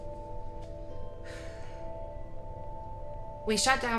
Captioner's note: Olivia sighs